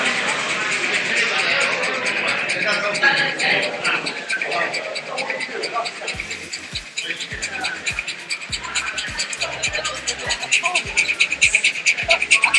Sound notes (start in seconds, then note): 0.0 steam locomotive chuffing